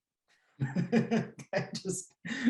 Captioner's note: laughs